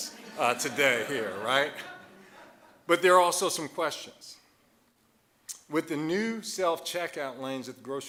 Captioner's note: audience laughing